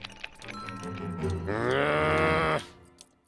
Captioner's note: growls